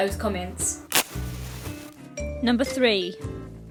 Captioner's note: sound of match being struck